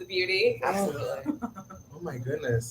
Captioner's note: laughs